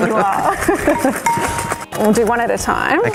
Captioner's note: laughs